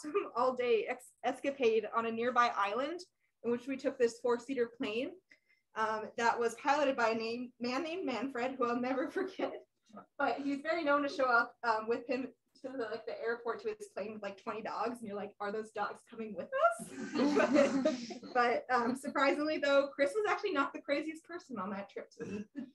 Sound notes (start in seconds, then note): 16.8 laughter